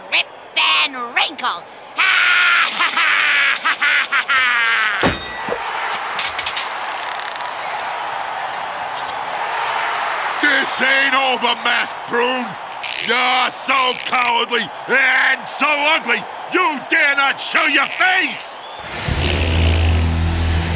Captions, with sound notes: Rip Van Wrinkle. (Laughing) (Cheering) This ain't over, Masked Prune. You're so cowardly and so ugly, you dare not show your face!